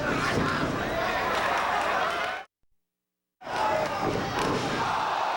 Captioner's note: audience shouting